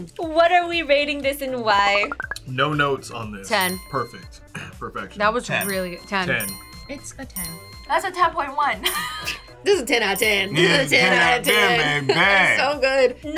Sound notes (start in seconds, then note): 5.6 bell chimes; 8.6 laughs; 8.8 bell chimes